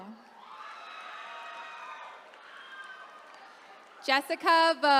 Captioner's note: attendees cheering